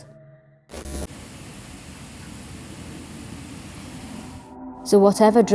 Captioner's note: white noise static